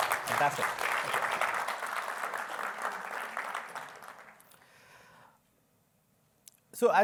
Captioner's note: applause